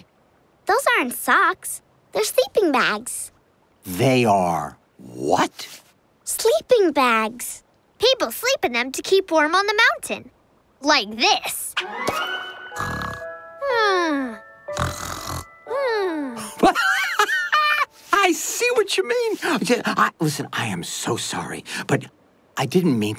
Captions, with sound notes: Those aren't socks, they're sleeping bags. They are what? Sleeping bags. People sleep in them to keep warm on the mountain. Like this. [snoring] [laughing] I see what you mean! Listen, I am so sorry, but I didn't mean to take them,